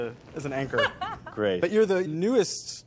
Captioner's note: kekilli laughing